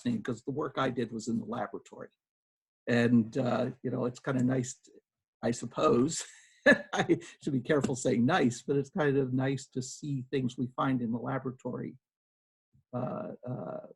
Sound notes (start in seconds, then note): 6.6 laughs